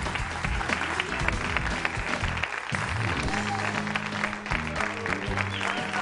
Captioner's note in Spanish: Aplausos; Aclamaciones